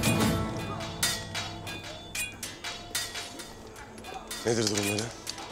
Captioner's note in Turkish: Kılıç sesleri